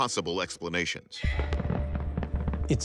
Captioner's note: fireworks popping